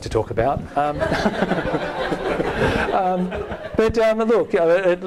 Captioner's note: all laughing